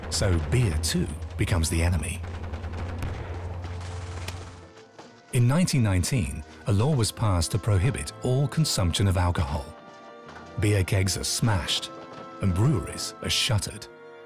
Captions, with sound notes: So beer too becomes the enemy. [gun shots] In 1919, a law was passed to prohibit all consumption of alcohol. Beer kegs are smashed and breweries are shuttered.